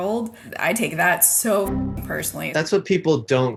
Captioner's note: boing sound